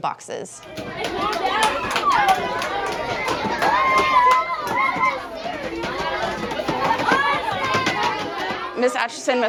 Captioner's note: sound of falling boxes – student voices